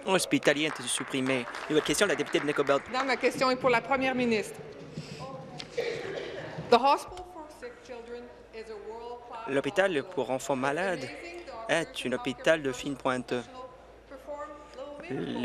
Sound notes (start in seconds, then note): 4.5 speaking in French